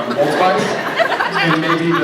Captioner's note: scattered laughs